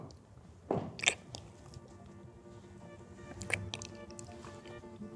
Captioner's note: lips smacking